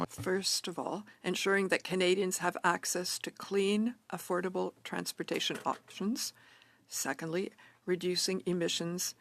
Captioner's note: speaking French